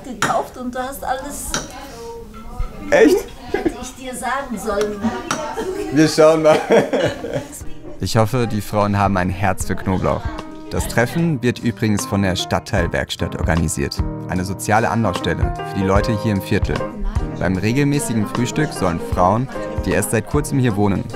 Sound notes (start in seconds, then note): 4.8 laughing